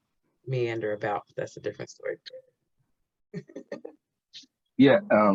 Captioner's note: chuckles